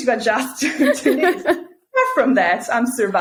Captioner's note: both laughing